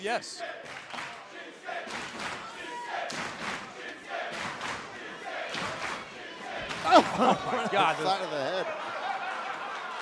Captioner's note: fans chanting